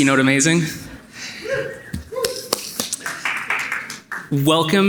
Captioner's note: audience reacting in agreement